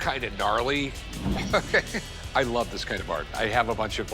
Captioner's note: chuckles